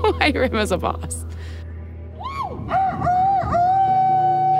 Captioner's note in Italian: fa il canto del gallo